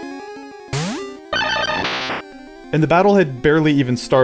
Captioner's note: Sound of Dugtrio's in-game cry